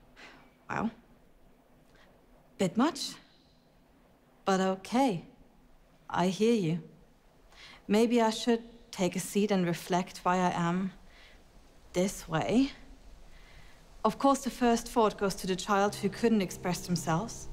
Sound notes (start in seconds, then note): none